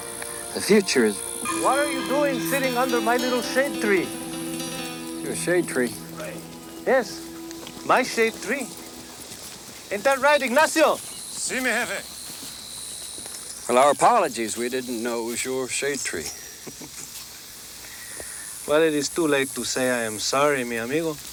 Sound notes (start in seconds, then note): 11.3 Ignacio speaks Spanish; 16.6 Tors chuckles